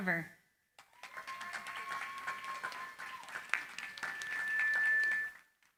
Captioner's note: cheering, applause